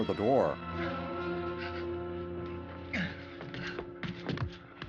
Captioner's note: grunting